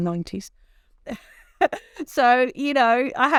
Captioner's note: laughs